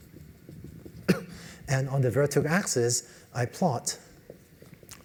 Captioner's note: cough